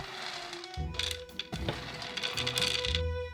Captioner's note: pine nuts dropping